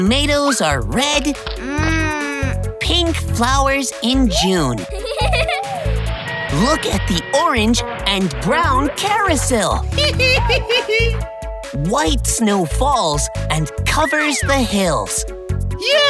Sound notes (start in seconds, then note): 4.8 giggling; 9.9 laughing